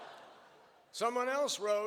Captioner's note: laughter